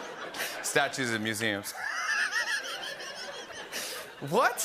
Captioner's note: laughter